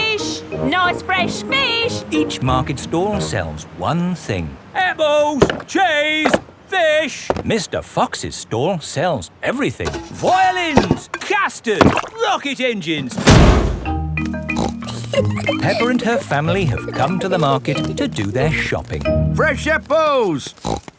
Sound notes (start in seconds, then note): 14.5 snorts and giggles